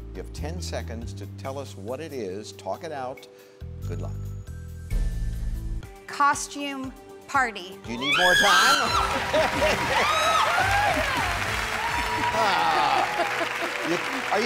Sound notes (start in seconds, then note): 9.0 laughs